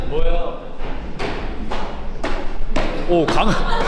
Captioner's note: A thumping sound echoes from a distance